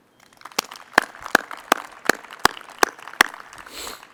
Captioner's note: audience applauds